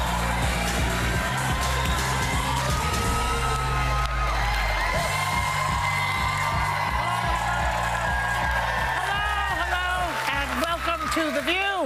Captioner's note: cheers and applause